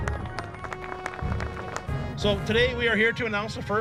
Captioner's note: people applauding